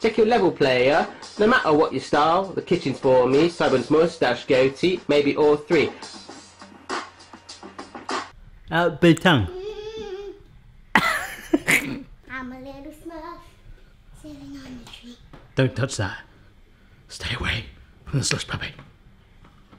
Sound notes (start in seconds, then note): 0.1 rap music; 10.9 laughs